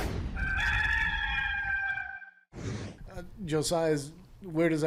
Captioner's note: cockerel crowing